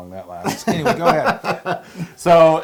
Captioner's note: laugh